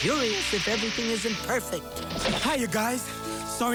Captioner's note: splashing